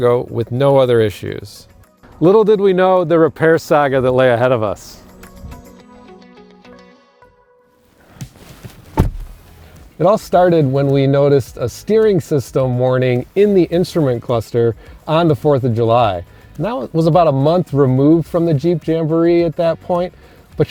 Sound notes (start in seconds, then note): 6.2 gentle music; 8.7 door slamming